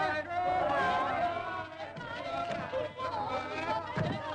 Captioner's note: crowd shout goodbyes